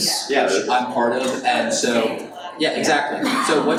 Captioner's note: woman comments